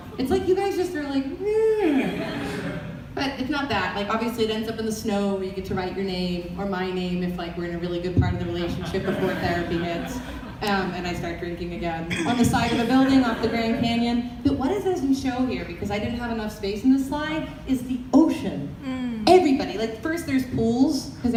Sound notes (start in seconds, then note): 8.6 audience laughter